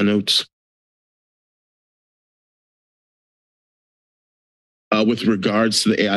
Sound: silence

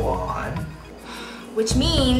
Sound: sighs

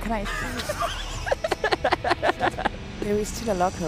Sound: laughs

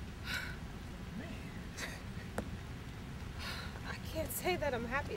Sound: scoffs

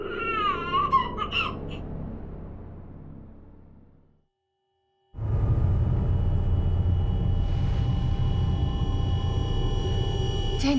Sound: baby fussing over monitor

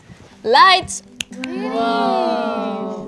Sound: snaps fingers

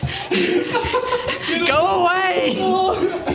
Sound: shouting and giggling; shouting

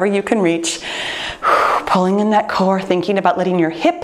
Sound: exhales sharply

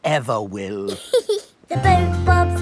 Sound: giggles

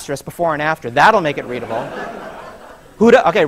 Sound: laughter

